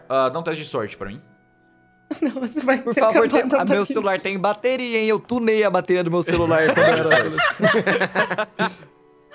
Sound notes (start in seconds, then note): 6.3 everyone laughs